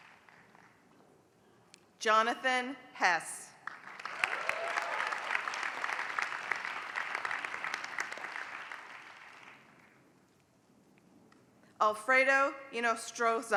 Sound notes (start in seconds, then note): 0.0 applause; 3.6 applause